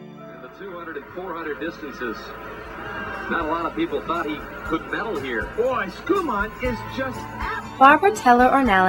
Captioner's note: radio on in background